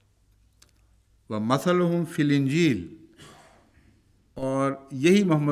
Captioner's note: Arabic